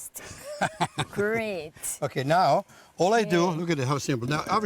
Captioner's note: laughs